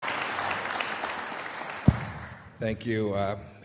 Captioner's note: applause